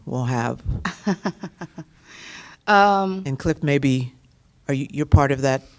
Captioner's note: laughter